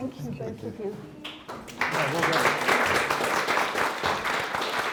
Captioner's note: audience applauding